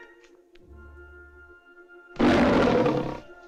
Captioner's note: leopard Roars